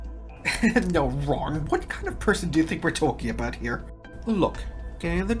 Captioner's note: laughs